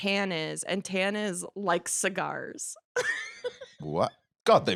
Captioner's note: laughs